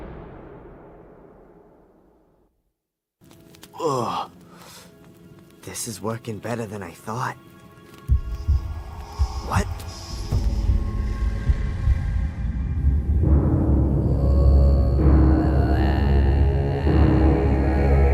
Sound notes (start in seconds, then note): 8.2 ghost whispers; 8.2 menacing music; 14.0 chanting